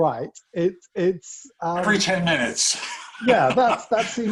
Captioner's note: laugh